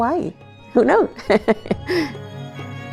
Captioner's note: laughs